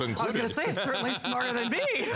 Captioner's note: laughter